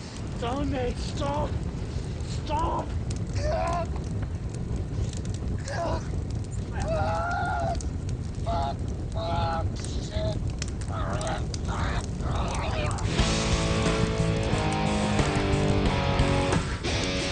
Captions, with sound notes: No, mate, stop, stop! Ugh! Ugh! Fuck! Fuck, fuck, shit! Ugh! (Collin screams) (intense rock music)